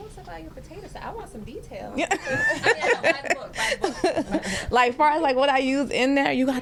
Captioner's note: laughter